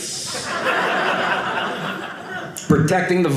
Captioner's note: audience laughing